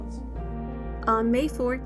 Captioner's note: female voice over